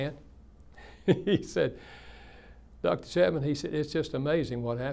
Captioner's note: laughs